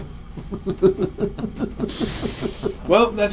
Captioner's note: both laughing